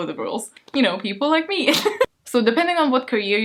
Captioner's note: laughs